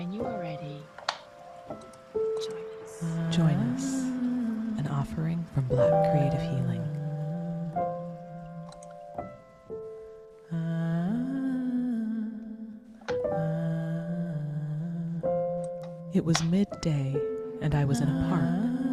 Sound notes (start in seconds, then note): 7.3 humming and Music